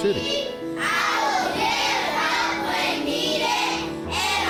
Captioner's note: kids chanting